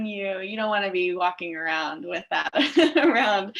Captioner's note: laughs